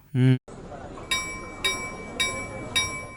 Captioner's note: railway station bells